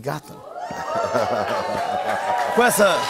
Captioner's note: audience woos